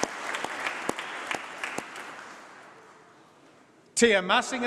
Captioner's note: applause